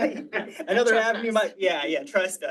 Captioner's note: all laughing